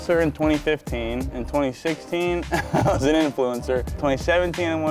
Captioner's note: laughing